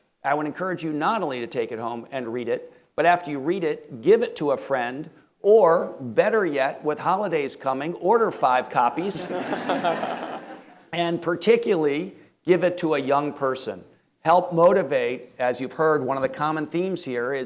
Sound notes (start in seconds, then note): 9.1 audience laughing